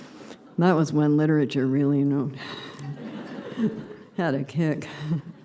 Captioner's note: laughter